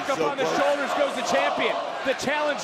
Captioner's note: crowd chants "let's go kelani"; crowd chants "let's go sol"